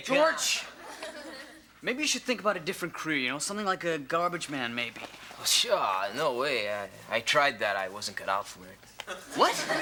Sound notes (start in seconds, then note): 5.7 scoffs; 9.1 audience laughs